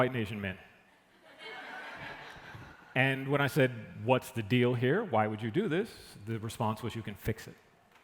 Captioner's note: laughter